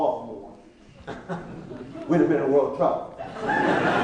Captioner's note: laughing